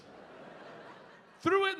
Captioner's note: audience laughing